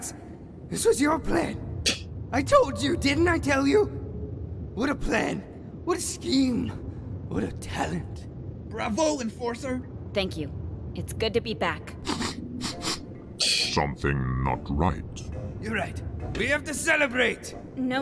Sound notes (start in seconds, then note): 1.7 Musky scoffs; 12.6 Plumbum sniffing; 13.4 Musky scoffs